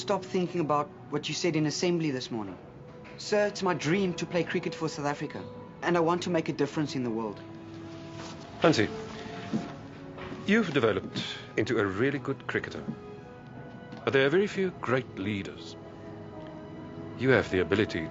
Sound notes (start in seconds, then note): none